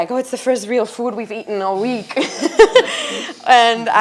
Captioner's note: laughs